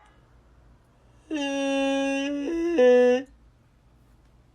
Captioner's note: foghorn sob